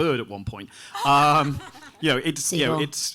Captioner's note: audience laughing